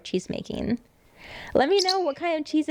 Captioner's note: chirps